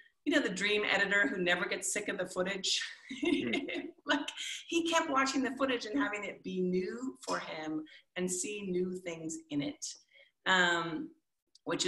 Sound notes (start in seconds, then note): 3.2 chuckles